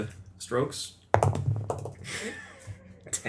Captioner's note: dice rolls